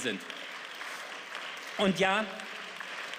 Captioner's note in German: Beifall